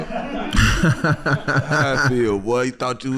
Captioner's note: laughing